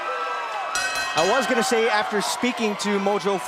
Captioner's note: bell ringing